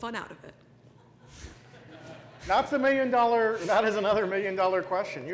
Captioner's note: laugh